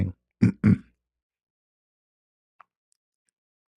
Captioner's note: berehat dan batuk